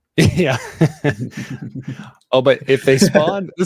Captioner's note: chuckling